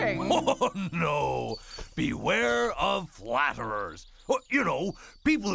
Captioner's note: laughs